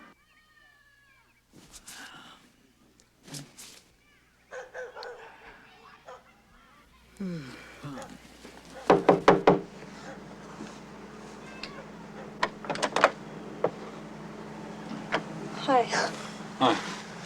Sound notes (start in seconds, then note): 4.4 dog barks; 8.8 knock on door